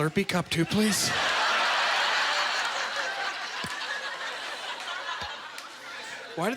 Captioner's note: audience laughter